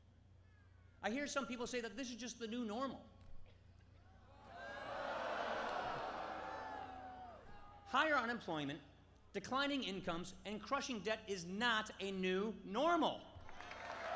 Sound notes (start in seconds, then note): 4.4 crowd booing